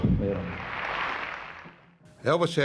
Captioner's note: audience applauding